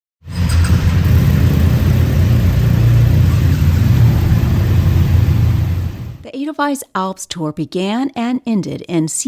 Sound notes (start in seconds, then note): 0.3 motorcycle starts & revs